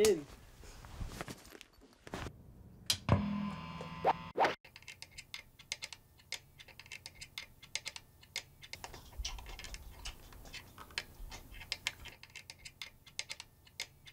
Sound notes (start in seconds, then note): 2.6 drum stick whooshing; 2.9 effects pedal buzzing